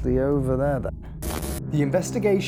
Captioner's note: static